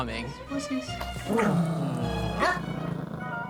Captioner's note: growls